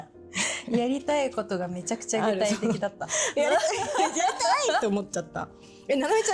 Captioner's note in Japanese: 笑い